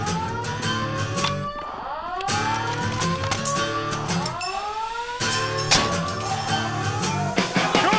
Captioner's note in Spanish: Alarmas sonando